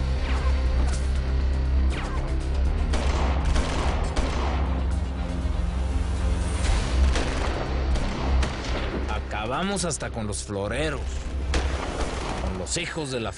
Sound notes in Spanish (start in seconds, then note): 1.1 Disparos